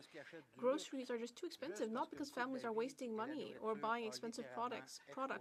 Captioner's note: speaking French